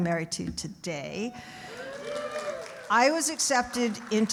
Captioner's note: audience cheering